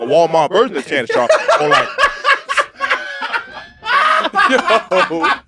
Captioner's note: laugh